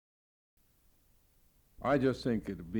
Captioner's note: silence